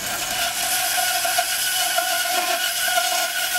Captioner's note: screeching sawing noises